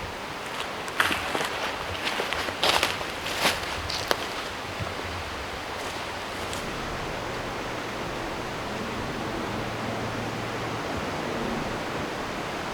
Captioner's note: crunching noises